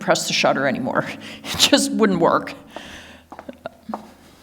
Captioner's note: laughs